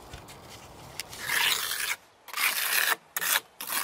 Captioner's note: rough scratching noises